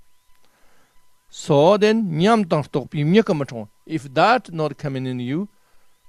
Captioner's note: tibetan